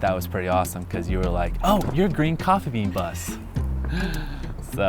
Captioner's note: laughs